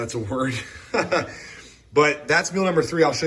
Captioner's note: laughing